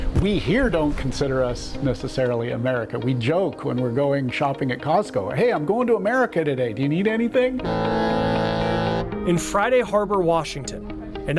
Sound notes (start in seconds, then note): 7.6 barge booming